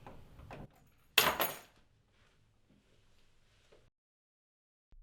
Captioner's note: keys clattering